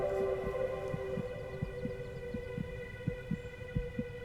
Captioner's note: heart beating